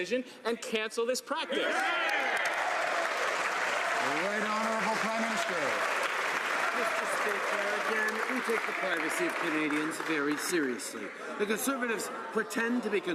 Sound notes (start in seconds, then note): 5.5 some Applause